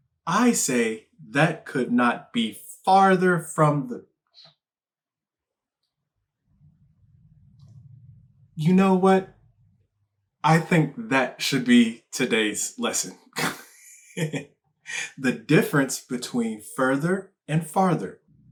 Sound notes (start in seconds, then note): 13.3 laughs